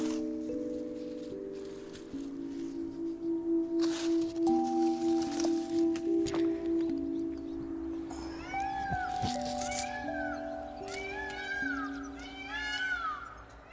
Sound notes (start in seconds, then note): 3.0 birds chirping; 8.1 baby crying